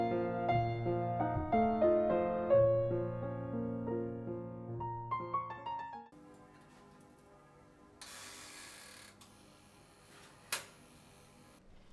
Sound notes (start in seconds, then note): 6.4 bread drops into toaster - timer whirs